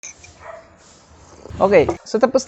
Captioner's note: sips coffee